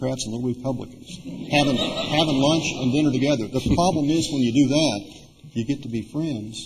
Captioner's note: laughter